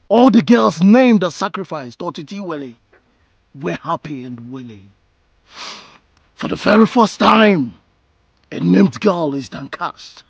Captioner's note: snorts